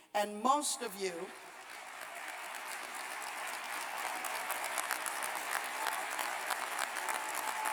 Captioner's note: applause